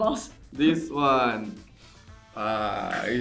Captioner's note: sniffs